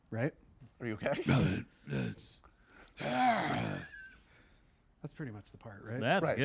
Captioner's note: grunts